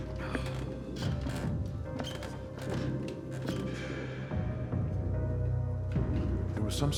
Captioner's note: eerie music continues; stairs creaking